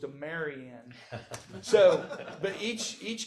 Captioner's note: audience laughs